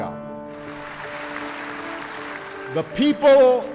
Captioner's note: applause